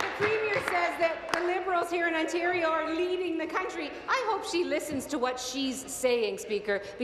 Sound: applause

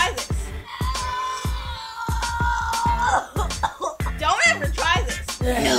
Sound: coughing

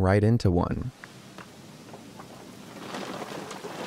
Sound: rain falling

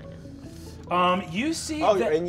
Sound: phone ringing

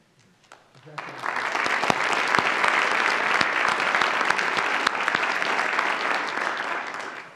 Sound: audience applauds

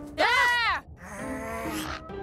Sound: growls

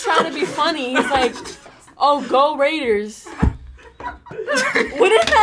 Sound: laughs

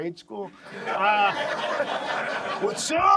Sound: audience laughs

